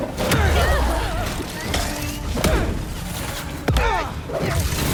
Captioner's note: tentacles squelch; enemies grunting; machinery whirring; characters grunting